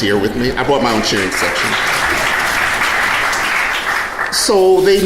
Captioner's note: audience applauding